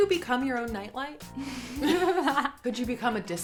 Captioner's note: both chuckles